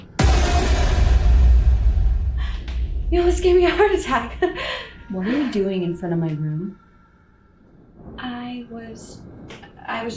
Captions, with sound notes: (jump scare music) (gasps) You almost gave me a heart attack. (Laughs) What are you doing in front of my room? I was, I was just.